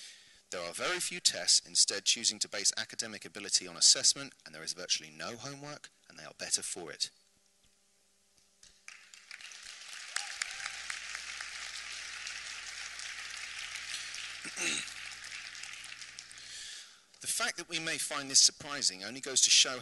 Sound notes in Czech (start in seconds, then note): 8.6 potlesk